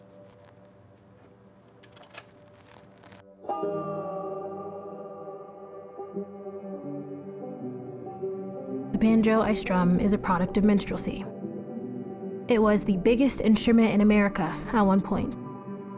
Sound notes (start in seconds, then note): 2.1 record player starts; 3.6 discordant music